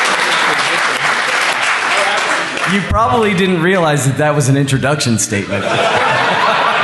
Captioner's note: laughter